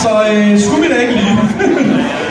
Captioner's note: he giggles